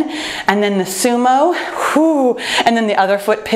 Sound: exhales

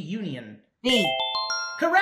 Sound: winning ring

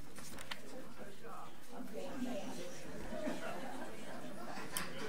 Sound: overlapping chattering

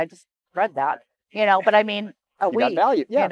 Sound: chuckles

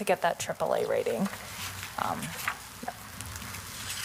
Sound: paper rustling

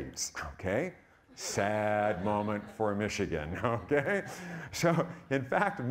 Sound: audience laughing

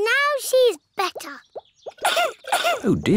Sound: coughs

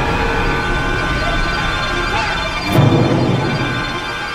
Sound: musical stinger; yelps

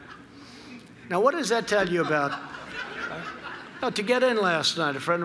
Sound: laughter

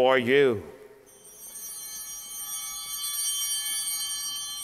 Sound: bell ringing

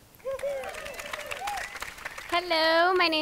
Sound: audience cheering

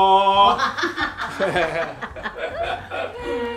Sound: laughs

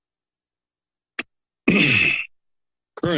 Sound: clears throat

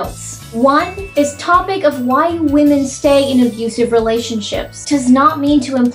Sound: ding

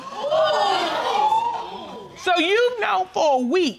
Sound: audience gasping

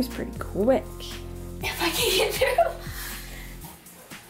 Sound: laughing

